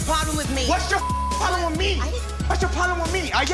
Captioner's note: beep